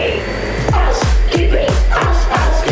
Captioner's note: vacuum noise and music